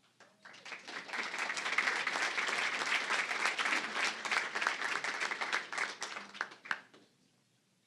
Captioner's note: applause